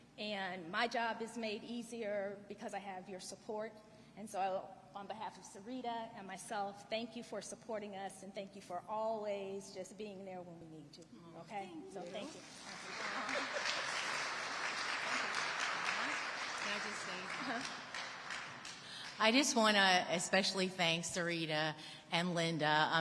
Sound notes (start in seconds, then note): 12.3 audience applauding